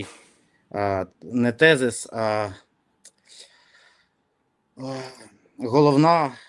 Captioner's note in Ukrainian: сопіння